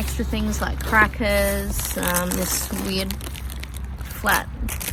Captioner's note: plastic crackles